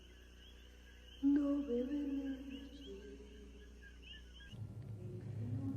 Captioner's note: dreamily